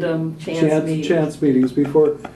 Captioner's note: laughter